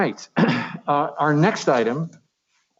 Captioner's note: clears throat